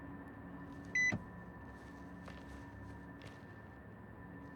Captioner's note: car locking beep